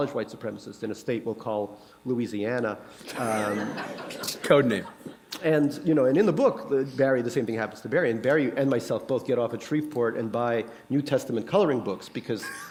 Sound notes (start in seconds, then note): 3.1 laughter; 12.4 laughter